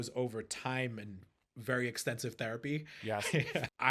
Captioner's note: laughing